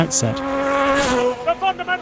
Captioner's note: engine revving